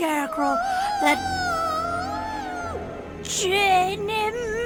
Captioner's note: ghostly wailing